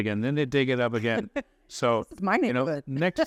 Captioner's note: laughs